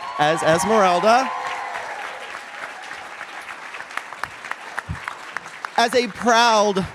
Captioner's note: cheers and applause